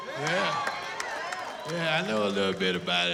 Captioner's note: cheering